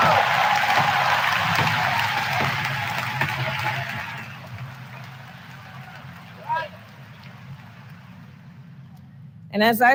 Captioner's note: applause